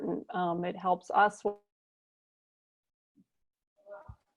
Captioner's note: audio dropout